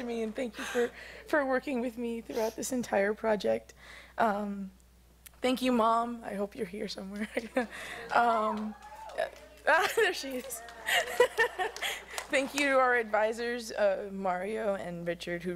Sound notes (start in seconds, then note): 7.6 cheering; 9.0 laughs